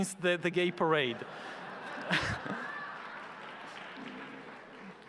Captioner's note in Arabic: الجمهور يضحك